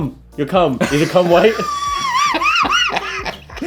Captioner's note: laughing